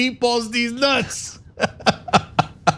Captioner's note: laugh